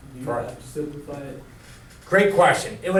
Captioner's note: voiceover